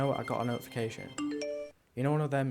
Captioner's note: digital pinging